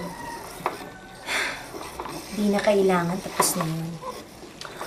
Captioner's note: sighs